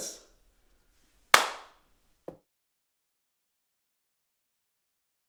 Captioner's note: hands clapping